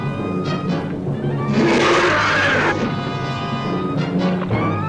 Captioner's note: Pete roaring